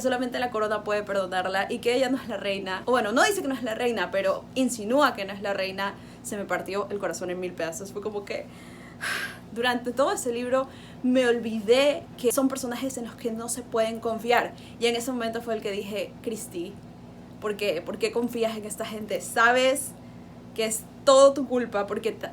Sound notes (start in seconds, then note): 8.7 sigh